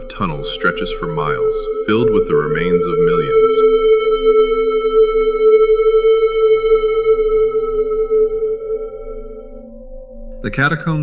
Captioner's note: whispering